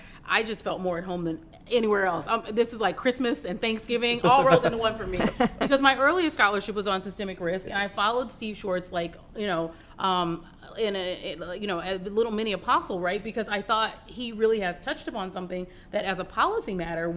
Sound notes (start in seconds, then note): 4.1 laughter